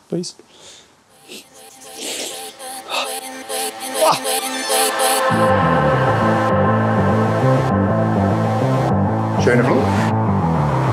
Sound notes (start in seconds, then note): 1.8 sniffing; 5.3 energetic music; 9.3 speaking foreign language; 10.7 energetic music